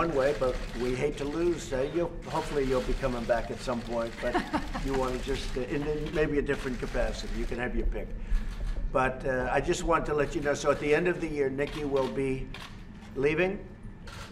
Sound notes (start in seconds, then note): 4.2 laughs